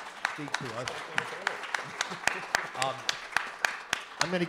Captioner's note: audience applauding